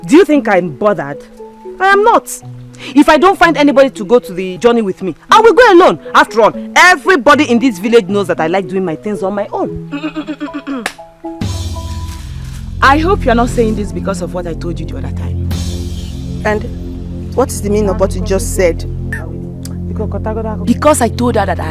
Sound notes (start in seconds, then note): 10.0 laughter